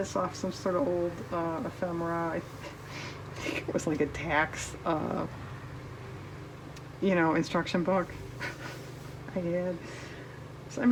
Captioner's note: laughs